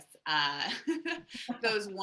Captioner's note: chuckles